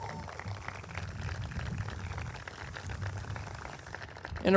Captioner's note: audience claps